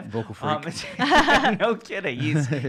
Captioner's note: laughing